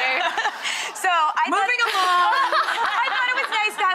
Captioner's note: all laughing